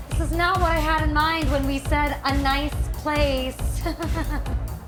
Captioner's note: laughs